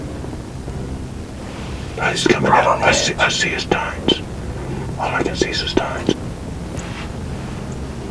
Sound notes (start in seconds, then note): 2.8 whispering